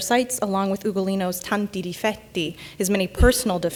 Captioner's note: speaking in Italian